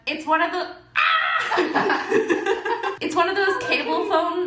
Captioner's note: laughing